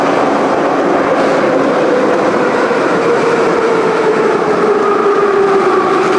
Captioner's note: braking - arrival at the station